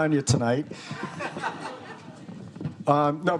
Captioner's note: students laughing